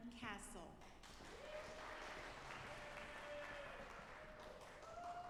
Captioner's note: audience applauding